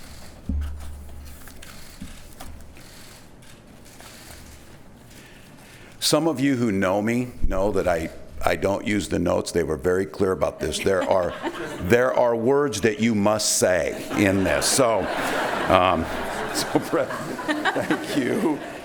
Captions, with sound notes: Some of you who know me, know that I don't use the notes, they were very clear about this (laughs) there are words that you must say (laughs) in this, so thank you.